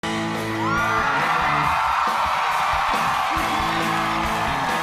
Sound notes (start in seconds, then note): 0.0 upbeat rock music; 0.3 audience cheering